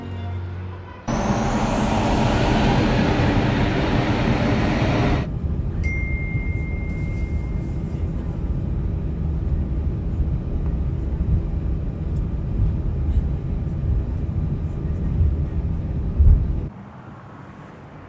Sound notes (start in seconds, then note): 2.8 jet engines; 6.3 phone notification bell